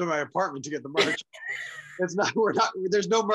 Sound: laughs

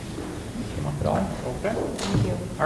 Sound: murmuring

